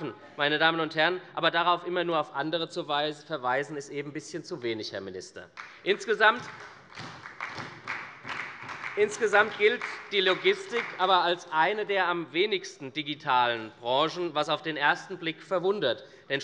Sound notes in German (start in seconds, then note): 5.5 Beifall bei der SPD